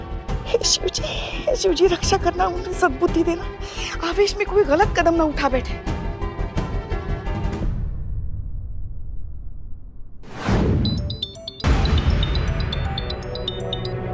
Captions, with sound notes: Oh, Lord Shiva, save her. Give her the power to think. So may she not take any drastic step. [tense music] [phone ringing]